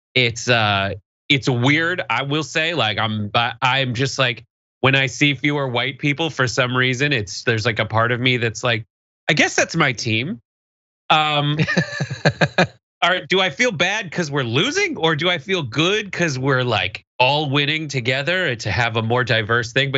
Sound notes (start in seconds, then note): 11.2 laugh